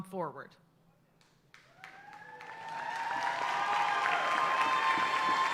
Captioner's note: audience cheers and applaud